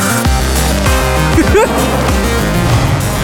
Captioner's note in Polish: śmiech